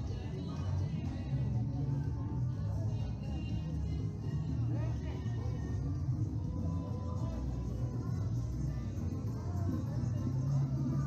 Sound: street sounds

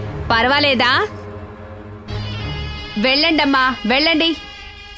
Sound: none

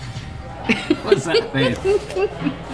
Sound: laughs

